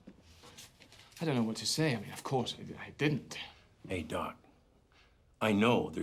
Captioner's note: none